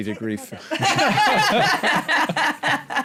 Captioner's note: laughter